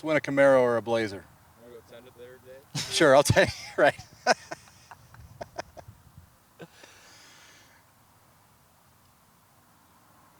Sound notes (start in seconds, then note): 2.2 speaking faintly; 6.5 laughs